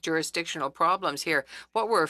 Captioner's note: speaking French